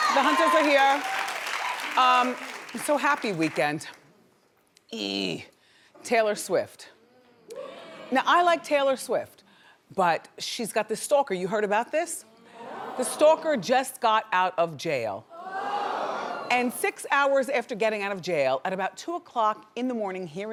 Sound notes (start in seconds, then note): 0.0 audience claps; 0.0 audience aw's; 7.4 audience hums; 12.6 audience hums; 15.4 audience groans